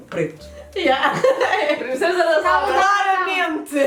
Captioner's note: laughs